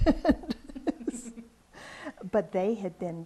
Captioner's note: laughs